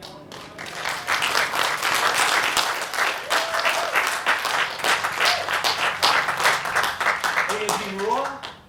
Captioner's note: applause